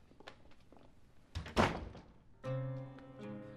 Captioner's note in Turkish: Kapı kapanma sesi